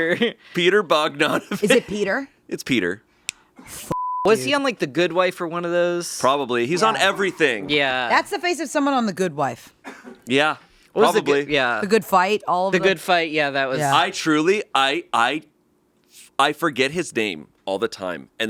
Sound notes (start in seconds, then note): 4.0 beeping